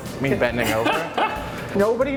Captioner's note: laughs